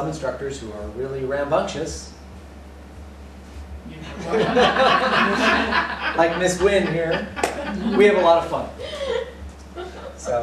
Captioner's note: laughter